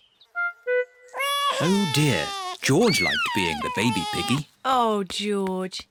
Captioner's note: bawls